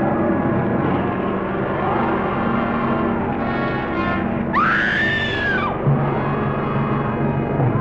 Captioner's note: Rosina screaming; creature roaring